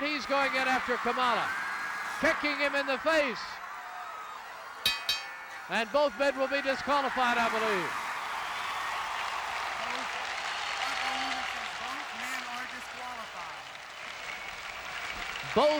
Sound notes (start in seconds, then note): 4.8 bell rings; 8.7 audience applauding